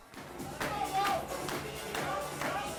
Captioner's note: players clapping and cheering